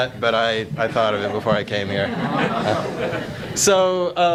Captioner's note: audience laughs